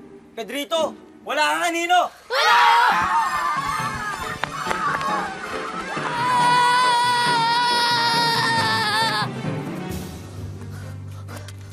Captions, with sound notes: Pedrito, you don't have a shadow! -[boys screaming] -[menacing music playing] [breathing heavily]